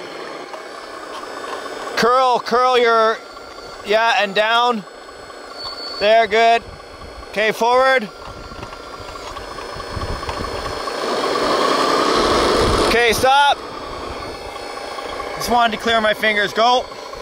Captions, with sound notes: Curl, curl you're, yeah and down. There, good, okay, forward. (engine chugging) Okay, stop. Just wanted to clear my fingers, go.